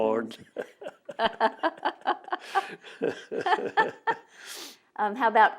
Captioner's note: laughter